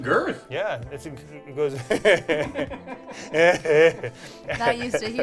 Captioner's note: laughs